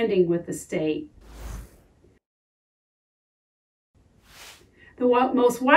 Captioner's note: title whooshing